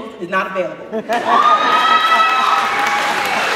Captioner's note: cheering